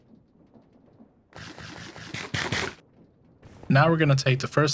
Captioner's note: apple crunching